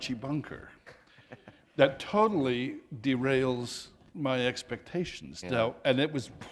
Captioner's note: chuckle